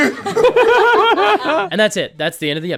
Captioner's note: laughter